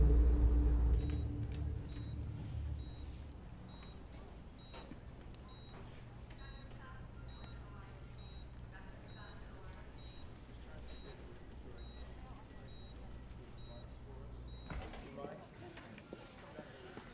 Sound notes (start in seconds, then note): 1.5 monitor beeping